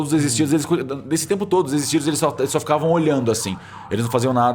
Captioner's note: siren in the background